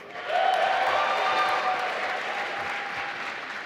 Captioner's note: applause